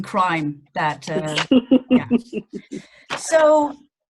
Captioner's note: laughing